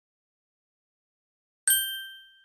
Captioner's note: ding